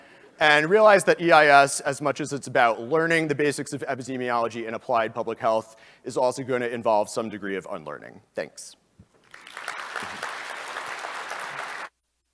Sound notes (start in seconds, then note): 9.2 applause